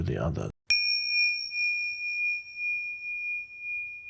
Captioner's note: bell chimes